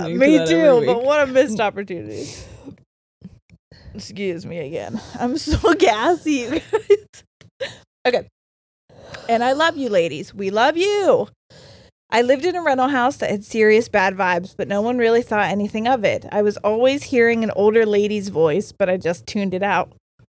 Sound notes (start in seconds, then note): 6.8 laughs